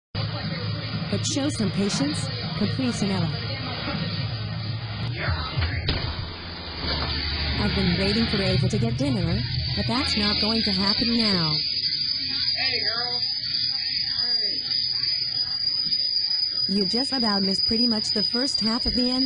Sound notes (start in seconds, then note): 4.3 TV continues playing